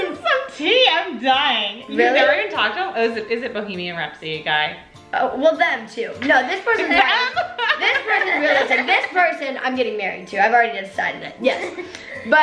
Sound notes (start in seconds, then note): 6.3 laughs